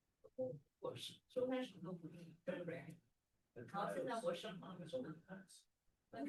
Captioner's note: speaking Chinese